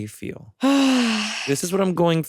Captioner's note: sighs